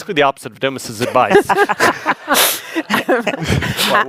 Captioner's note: laughing